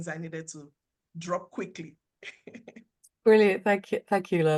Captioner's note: laughs